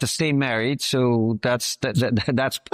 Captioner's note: laughs